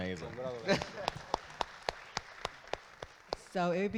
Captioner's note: audience claps